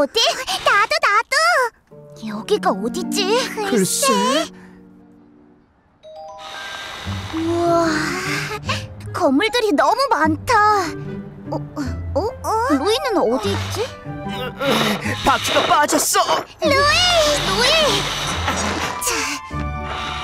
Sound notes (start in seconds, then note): 14.7 tire grinding